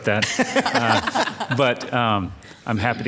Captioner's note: all laughing